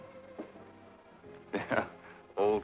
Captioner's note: chuckling